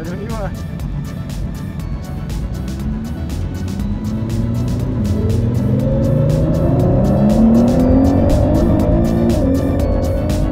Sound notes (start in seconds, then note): 1.5 tech music; 4.0 engine roaring